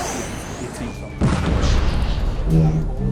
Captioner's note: explosion booms; tense music